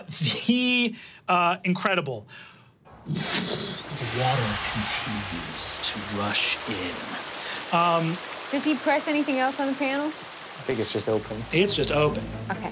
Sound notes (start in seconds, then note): 3.0 blowing air; 6.8 water rushing